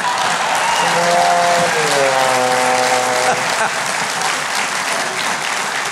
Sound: audience applauding

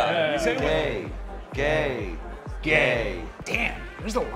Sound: all chanting "gay"

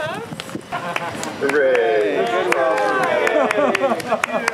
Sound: everyone applauds

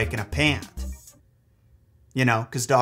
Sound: music stops

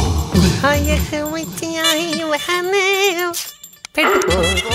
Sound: humming

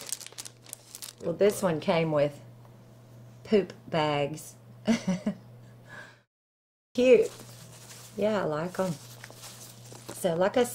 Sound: laughter

